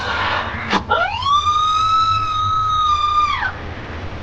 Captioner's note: screaming